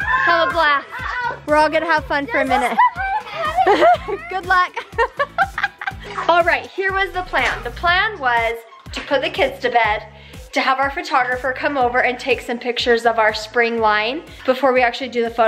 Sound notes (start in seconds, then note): 4.8 laughing